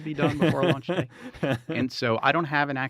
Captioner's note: laughing